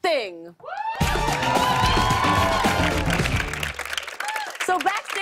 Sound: cheers and applause

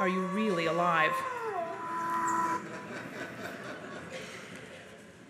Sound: soft laughter from audience

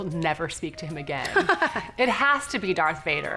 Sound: laughs

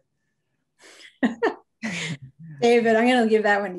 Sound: chuckles

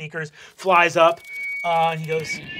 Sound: mic screeches

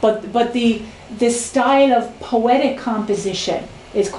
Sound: none

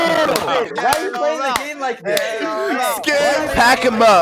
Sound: clapping

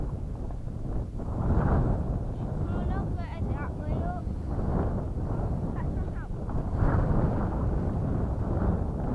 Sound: sound of wind

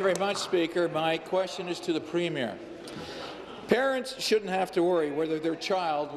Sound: applause

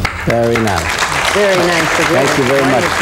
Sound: applause

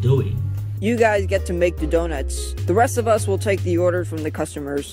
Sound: none

